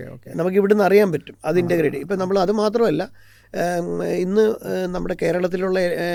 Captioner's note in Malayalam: തൊണ്ട ശരിയാക്കുന്നു